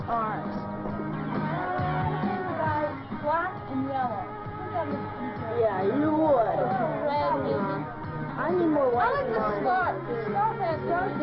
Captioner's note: children chattering